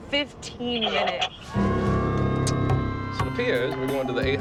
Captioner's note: sirens wailing